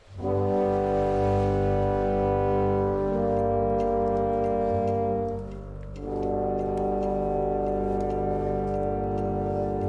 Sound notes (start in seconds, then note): 0.1 instrumental music; 3.2 clock ticking